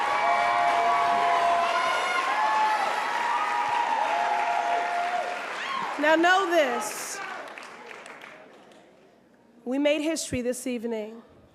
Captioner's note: applause